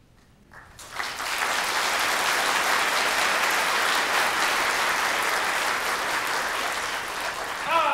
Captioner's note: applause